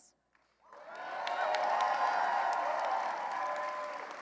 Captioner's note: cheering and applause